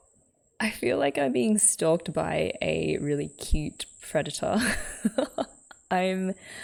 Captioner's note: laughs